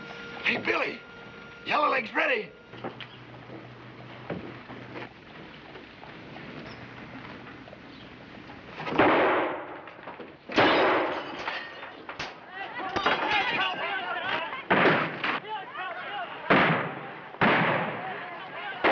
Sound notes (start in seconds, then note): 8.9 gunshots banging; 13.1 people clamoring; 15.1 gunshots banging